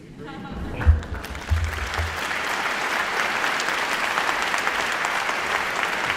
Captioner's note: audience chuckles; audience applauds